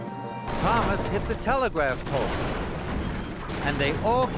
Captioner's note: crash!